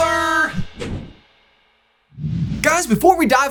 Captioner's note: logo whooshes